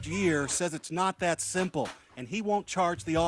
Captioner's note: gunfire